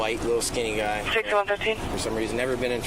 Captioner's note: radio chatter